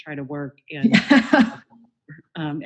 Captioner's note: laughing